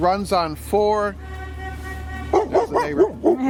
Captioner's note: horn honking